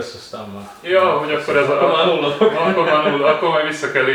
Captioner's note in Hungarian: nevetés